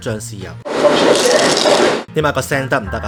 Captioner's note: crunch